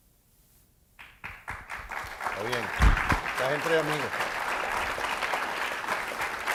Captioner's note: audience applauds; speaking in foreign language; audience applauds